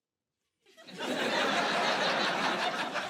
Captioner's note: laughter